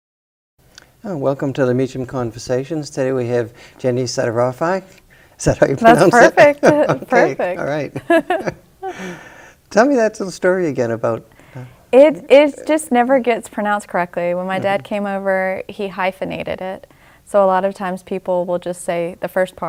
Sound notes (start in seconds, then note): 5.9 chuckles; 8.8 both chuckle